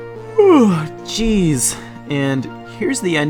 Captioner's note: yawn